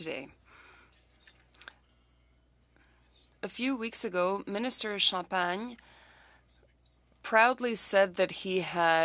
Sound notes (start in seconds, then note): 3.0 speaking french